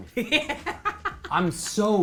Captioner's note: laughs